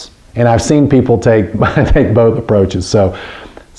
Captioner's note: giggles